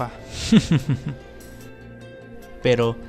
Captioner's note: chuckles